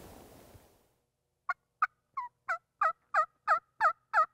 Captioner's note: turkey call